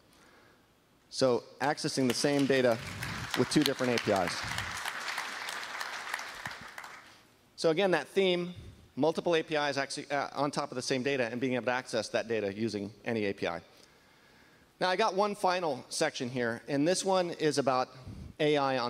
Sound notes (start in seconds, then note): 7.6 applause